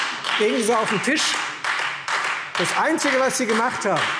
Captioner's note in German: Beifall Freie Demokraten